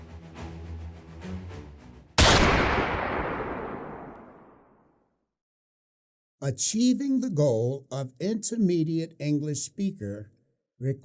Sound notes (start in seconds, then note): 2.2 gun fires